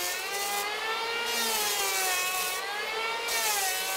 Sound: whirring of the planer

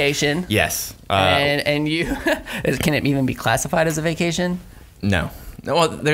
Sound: laughs

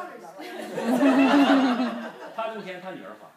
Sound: group laughs; speaking foreign language

